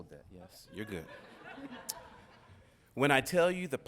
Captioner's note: audience laughing